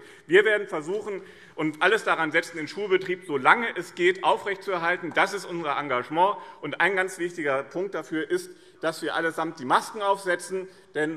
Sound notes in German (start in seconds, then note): none